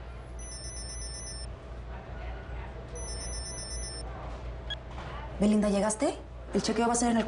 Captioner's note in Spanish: Suena el celular